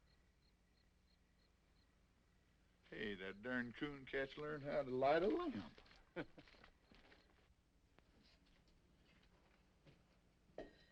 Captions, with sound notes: (insects chirping) - Hey, that darn Cooncat's learned how to light a lamp. (both laughing)